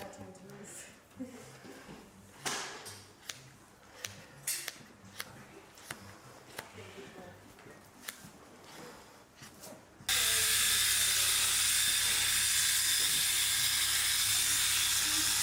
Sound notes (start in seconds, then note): 5.0 shears snipping; 10.1 clippers buzz